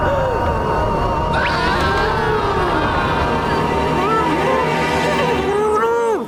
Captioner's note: gasps